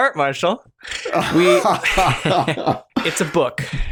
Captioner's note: laughter